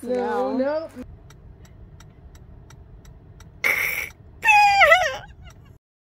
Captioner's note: car blinker; laughs